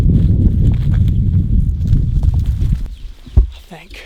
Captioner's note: wind blowing; grass crunching